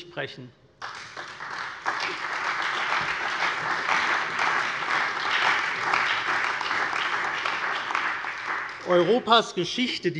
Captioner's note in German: Beifall bei der CDU, der SPD und dem BÜNDNIS 90/DIE GRÜNEN